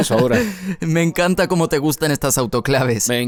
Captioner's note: risas